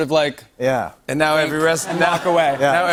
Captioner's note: laughter